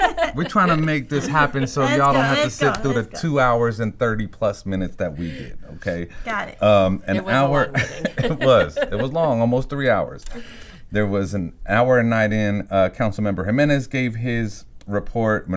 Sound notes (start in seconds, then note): 7.2 chuckles